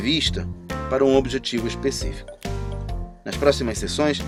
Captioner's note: conversation